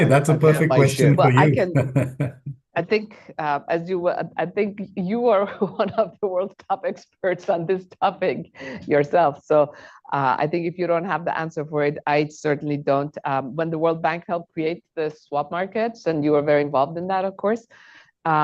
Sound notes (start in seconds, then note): 0.0 laughs; 8.9 laughs